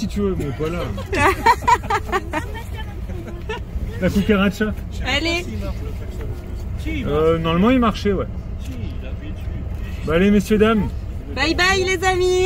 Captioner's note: laughs